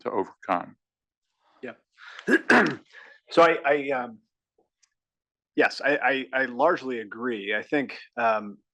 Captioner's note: cough